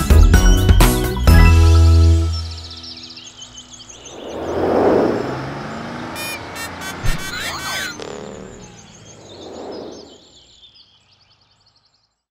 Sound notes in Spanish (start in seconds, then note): 0.0 Música Alegre; 3.2 Bocina; 3.2 Sonido de pájaros; 3.7 Sonido de auto